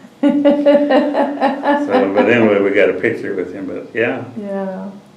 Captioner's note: laughter